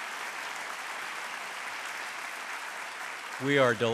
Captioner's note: applause